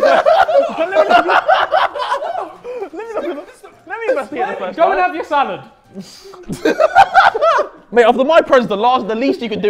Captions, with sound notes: (laughing) - Let me investigate it first. - Go and have your salad. (laughing) - Mate, after my presents, the least you could do